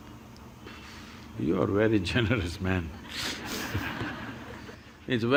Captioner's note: laughter